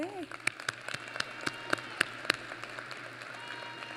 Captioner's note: applause